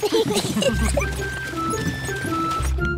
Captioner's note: all giggle